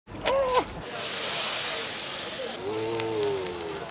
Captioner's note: steam hissing